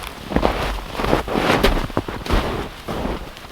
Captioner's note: snow crunching